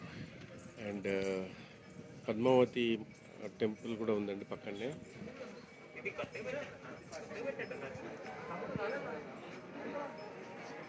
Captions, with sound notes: There is also Padmavathi amma vari temple here [crowd noise]